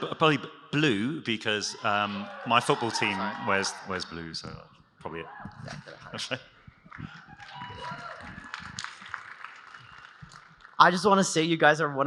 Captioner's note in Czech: Potlesk